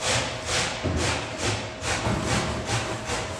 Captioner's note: sawing in the background